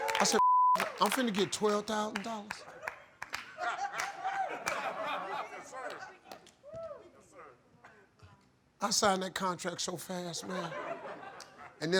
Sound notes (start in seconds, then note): 0.0 audience applauding; 0.4 beep; 2.6 audience laughing; 10.3 audience laughing